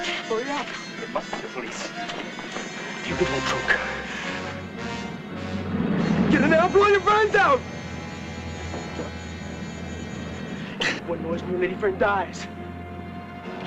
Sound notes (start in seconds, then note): 5.6 motorcycle engines; 8.3 tense music